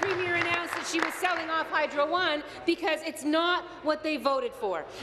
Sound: applause

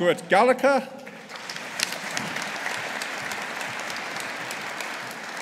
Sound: audience applauding

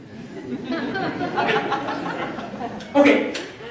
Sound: laughter

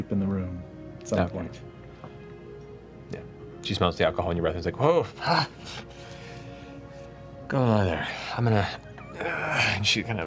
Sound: groans

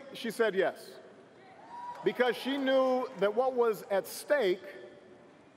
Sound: cheers & applause

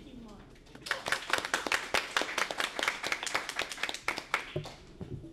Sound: applause

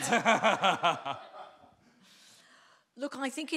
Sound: audience laughing

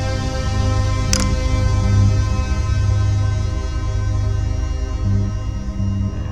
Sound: sound of phone turning off

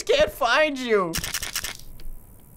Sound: flashlight rattles

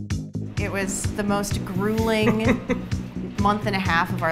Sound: chuckles

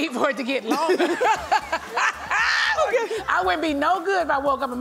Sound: laughs

